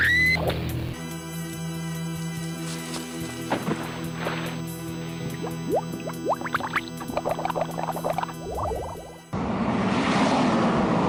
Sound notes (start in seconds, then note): 0.0 screams; 5.3 blood gurgles